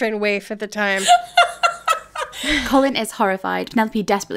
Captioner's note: laughing